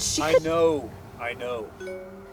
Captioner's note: notification sound